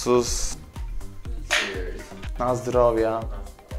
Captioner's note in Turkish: bardak tokuşur